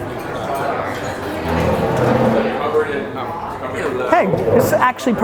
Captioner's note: background chatter